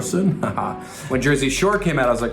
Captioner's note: laugh sarcastically